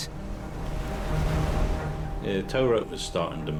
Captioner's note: dramatic music; waves crashing